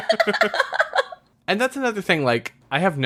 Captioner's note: laughs